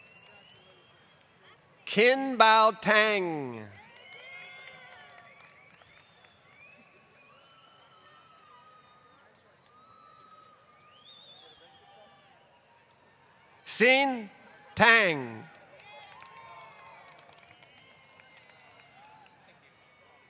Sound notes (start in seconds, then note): 2.8 applause; 14.8 applause